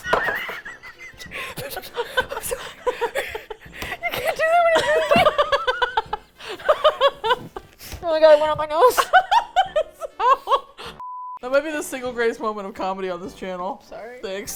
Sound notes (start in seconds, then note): 0.0 hysterical Laughter; 2.7 laughing uncontrollably; 5.3 hysterical Laughter; 8.2 laughs